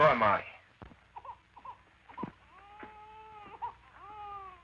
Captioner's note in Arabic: بكاء الطفل